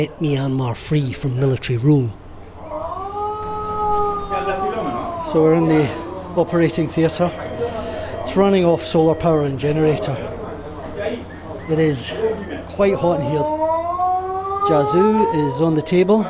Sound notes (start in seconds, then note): 4.1 man wailing; 14.6 man wailing